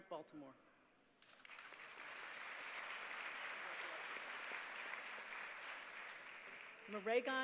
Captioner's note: applause